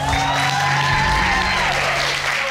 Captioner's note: audience cheering